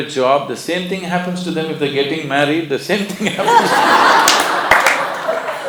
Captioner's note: laughter